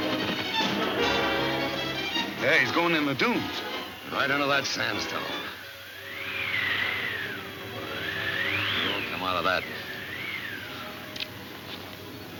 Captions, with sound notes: - Yeah, he's going in the dunes. - Right into that sandstorm. (wind whistling) He won't come out of that. Come on.